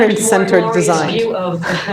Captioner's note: laughs